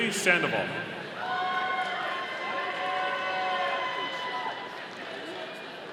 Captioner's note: audience cheering